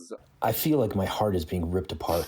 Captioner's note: through translator